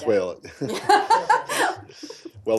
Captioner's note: laughter